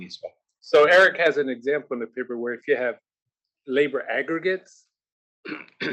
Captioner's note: cough